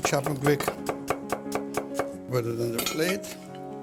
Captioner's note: chopping